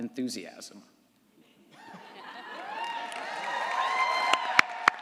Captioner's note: audience applauds & cheers